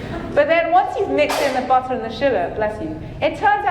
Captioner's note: audience member sneezing